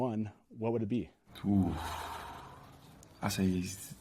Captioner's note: sighing